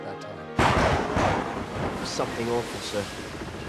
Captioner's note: thunder